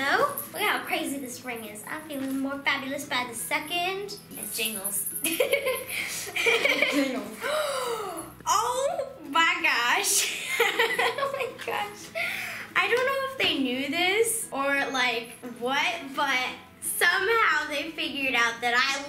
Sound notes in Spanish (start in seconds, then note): 5.2 risas; 7.4 jadeó; 10.3 riendo